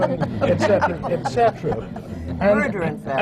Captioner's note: laughter